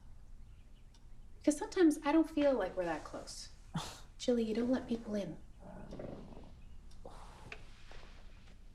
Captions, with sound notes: 'Cause sometimes I don't feel like we're that close. (Jill scoffs) Jilly, you don't let people in.